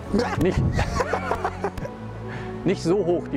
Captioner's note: he laughs